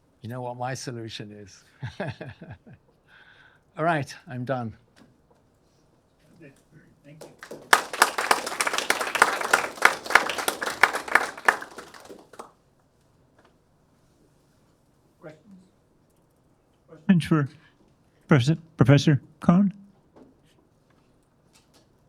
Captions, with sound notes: You know what my solution is. (chuckles) All right, I'm done. - Thank you. (attendees applauding) Questions? Questions for Professor Kohn?